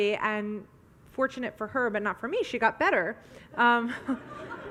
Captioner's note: audience laughs